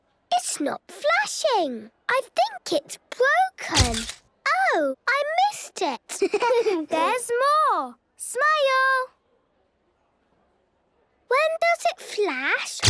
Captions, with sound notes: - It's not flashing! I think it's broken. - (camera clicks) - Oh! I missed it. - (giggling) There's more! Smile! - (silence) - When does it flash?